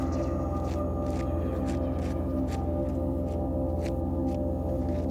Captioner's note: dirt pattering